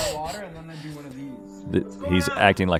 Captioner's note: Rhett laughing